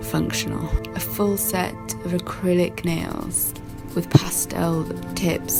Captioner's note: quiet brushing sounds